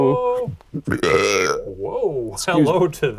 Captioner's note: belching